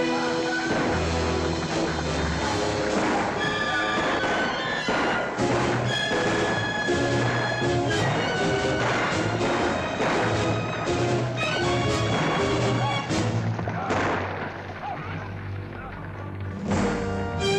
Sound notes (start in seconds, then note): 13.9 fire crackles; 15.1 dramatic music